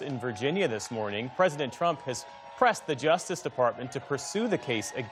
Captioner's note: cheers and applause